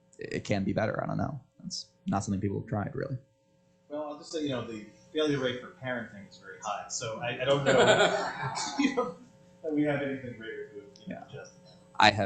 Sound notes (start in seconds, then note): 7.5 laughter